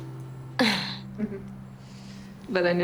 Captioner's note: both chuckle